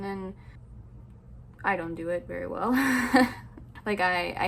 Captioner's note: sad laugh